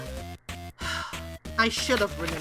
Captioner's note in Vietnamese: Thở dài